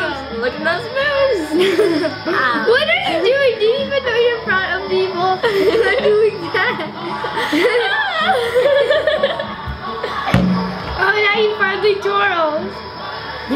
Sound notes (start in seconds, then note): 5.2 laughing